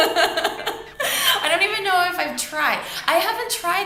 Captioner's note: laughs